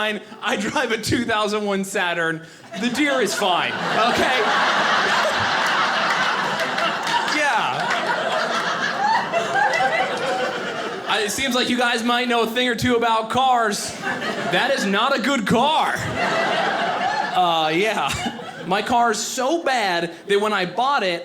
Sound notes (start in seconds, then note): 4.5 audience laughing; 15.6 audience laughing